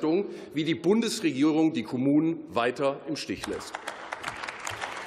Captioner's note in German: Beifall